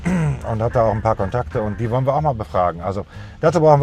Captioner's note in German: räuspern